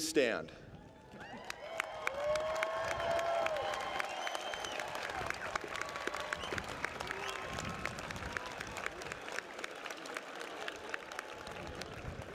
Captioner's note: applause